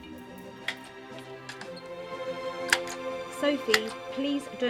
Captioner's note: metal tool clicking